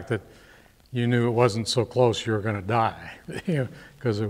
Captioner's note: laughs